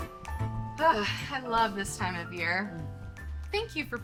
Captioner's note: sighs